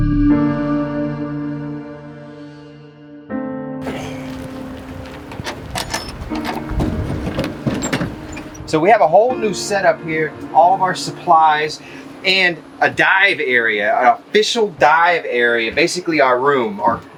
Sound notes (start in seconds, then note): 5.6 door latches clattering